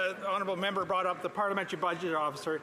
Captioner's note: some Applause